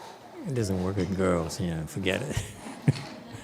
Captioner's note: laughs